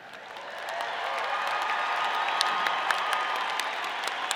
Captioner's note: audience cheering